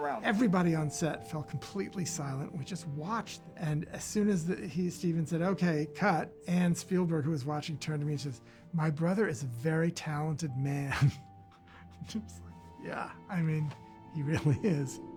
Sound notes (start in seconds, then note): 10.8 chuckles